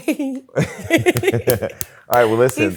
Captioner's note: laughs